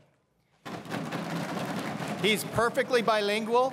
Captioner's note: crowd cheering and applauding